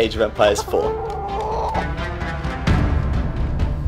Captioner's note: chicken squawking